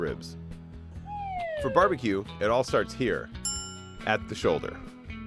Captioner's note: bell dings